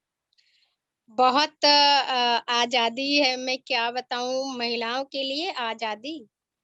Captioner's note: speaks foreign language